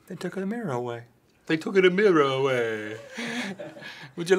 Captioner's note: Italian accent; Finebros chuckle